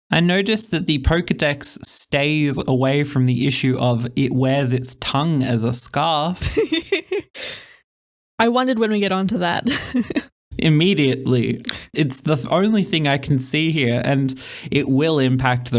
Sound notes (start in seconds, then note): 6.3 laughing